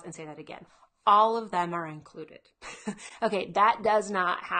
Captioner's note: chuckling